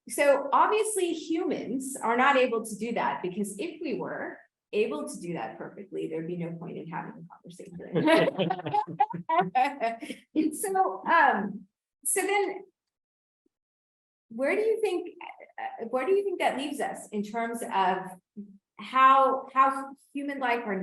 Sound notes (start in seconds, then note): 7.8 laughs